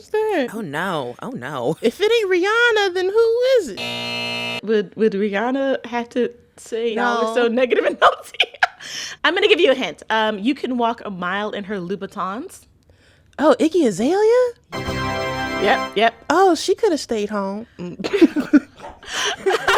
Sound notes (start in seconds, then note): 3.7 soundbite of buzzer; 7.7 laughter; 14.7 soundbite of victory tune; 17.9 laughter